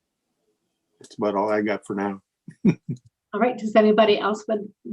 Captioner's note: laughs